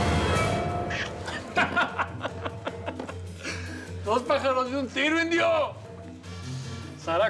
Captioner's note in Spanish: carcajadas